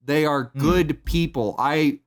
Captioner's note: thumps table